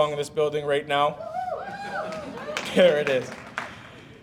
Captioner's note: audience cheering